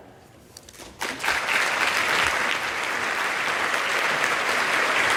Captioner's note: audience claps